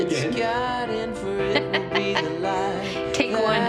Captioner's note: laughing